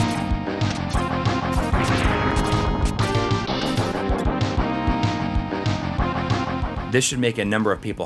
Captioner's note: game audio